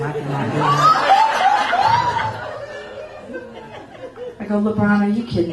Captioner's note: laughter